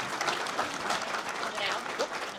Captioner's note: audience Applauding